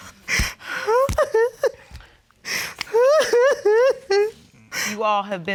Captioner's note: sobbing